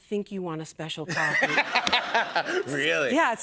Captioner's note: laughter